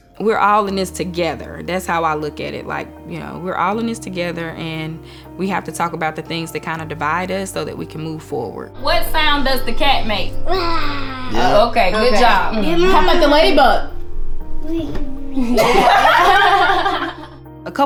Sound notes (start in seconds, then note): 10.5 roars; 15.5 laughs